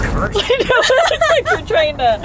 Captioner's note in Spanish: murmura; Ambos se ríen